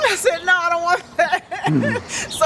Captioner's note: laughter